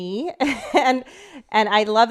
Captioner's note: chuckles